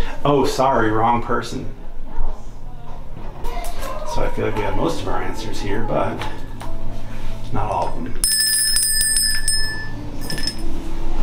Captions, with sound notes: Oh sorry, wrong person. So I feel like we have most of our answers here. But not all of them. [A Bell rings]